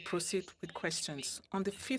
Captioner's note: speaking French